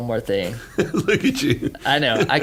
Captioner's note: laughing